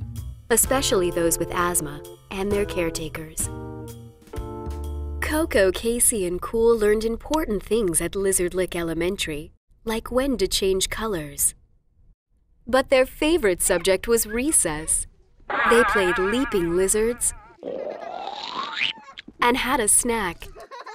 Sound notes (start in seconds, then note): 15.5 boing; 18.0 slurping; 20.4 laughing children